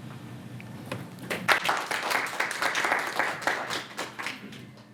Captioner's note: applause